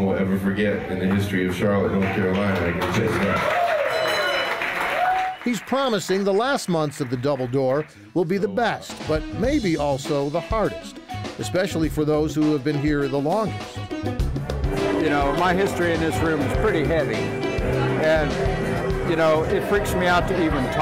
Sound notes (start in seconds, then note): 2.9 applause